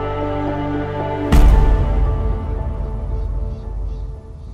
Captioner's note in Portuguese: estrondo grave